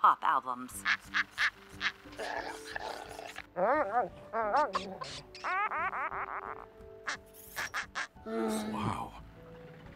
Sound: animal noises

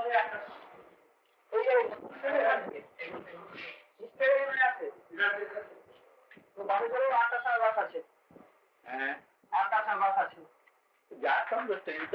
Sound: Hindi

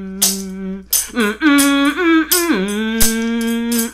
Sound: woman humming

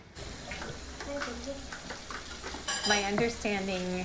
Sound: water running

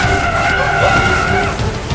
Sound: screams

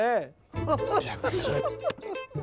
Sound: laughing

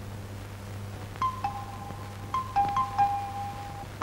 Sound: door Bell

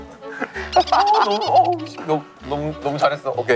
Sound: laughing

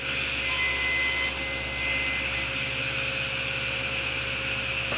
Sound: sawing wood

